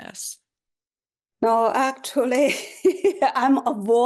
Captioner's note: laughter